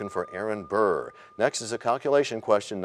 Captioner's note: bell rings, time expires